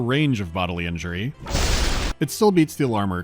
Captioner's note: boosh